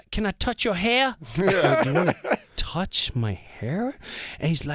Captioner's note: laughing